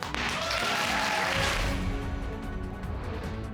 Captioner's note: audience applauding